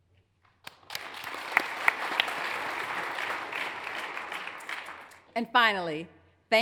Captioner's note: hands clapping; audience applauds